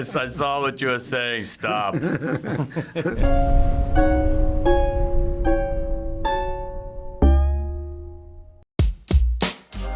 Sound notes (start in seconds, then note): 1.7 Willem laughing